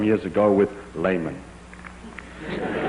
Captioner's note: laughter